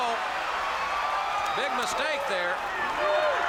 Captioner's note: crowd cheering